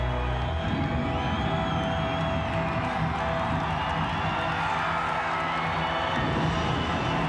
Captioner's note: crowd cheering continues; sinister music continues